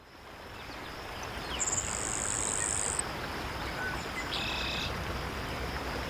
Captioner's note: birds chirping, insects buzzing